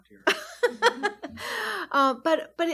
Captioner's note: laughs